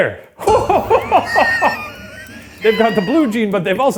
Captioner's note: laughing